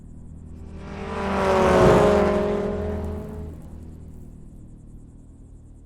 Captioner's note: car engine rumbling